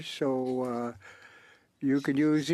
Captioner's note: speaking French